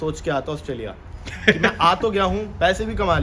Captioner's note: laughter